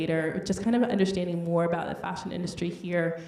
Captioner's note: none